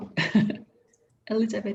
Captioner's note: laughs